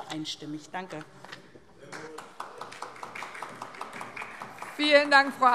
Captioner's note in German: Beifall SPD